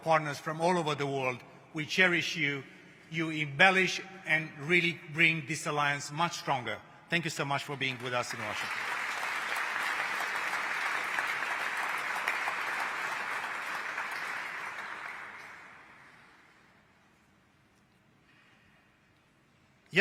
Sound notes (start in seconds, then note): 14.4 applause